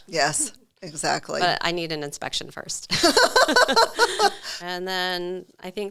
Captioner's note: both laugh